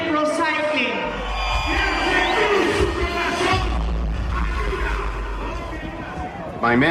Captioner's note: emcee speaking Spanish; audience cheering